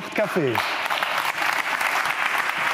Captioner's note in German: Applaus